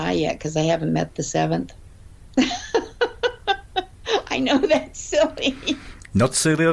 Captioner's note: laughs